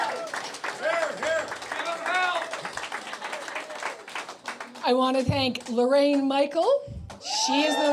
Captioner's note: cheers and Applause